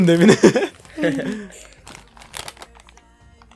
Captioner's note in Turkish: Gülme Sesi